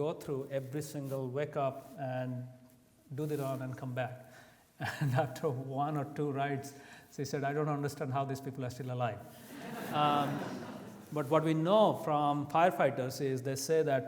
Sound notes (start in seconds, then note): 9.5 audience laughs